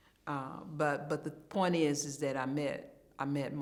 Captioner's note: none